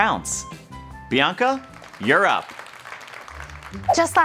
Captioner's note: applause